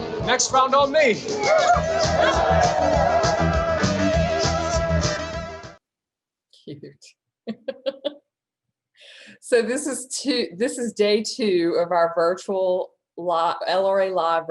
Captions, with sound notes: - Next round on me. (upbeat music) - Cute. (laughs) So this is day two of our LRA Live virtual event.